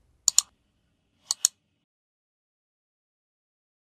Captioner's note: mouse clicking